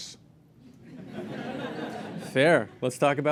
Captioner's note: laughter